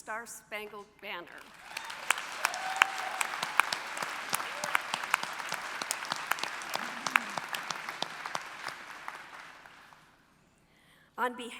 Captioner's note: applause